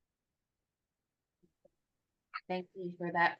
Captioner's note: silence